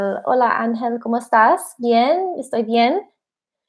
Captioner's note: speaking in spanish